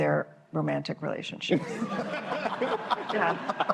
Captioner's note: laughter